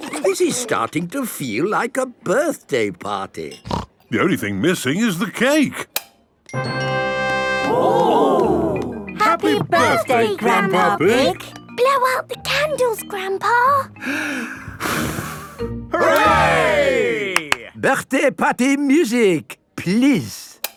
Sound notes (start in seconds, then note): 6.3 click; 14.0 breathes deeply, blows; 17.3 claps